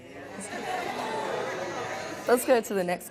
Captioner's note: audience murmuring